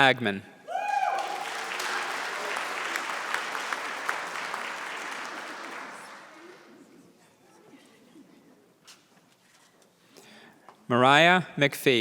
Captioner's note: applause